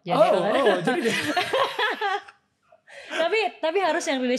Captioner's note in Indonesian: tertawa